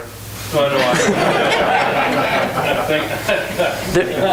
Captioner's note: laughing